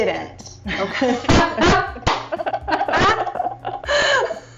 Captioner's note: laughing